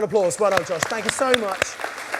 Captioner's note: audience applauding